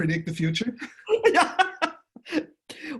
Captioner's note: laughing